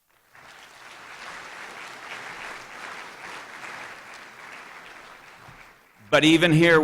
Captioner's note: applause